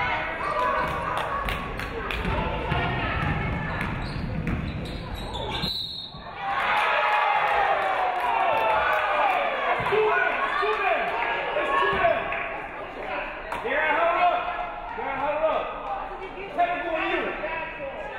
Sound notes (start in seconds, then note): 0.5 audience clapping; 5.4 referee whistles; 6.3 audience cheering; 7.4 audience clapping; 10.2 crowd chattering